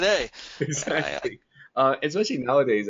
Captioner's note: laughing